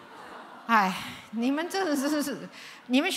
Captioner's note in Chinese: 嘆氣